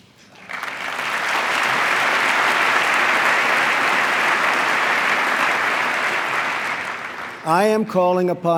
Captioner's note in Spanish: aplauso